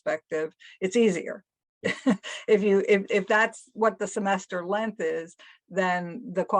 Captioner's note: laugh